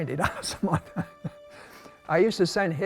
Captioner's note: laughs